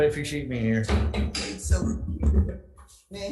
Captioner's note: banging gavel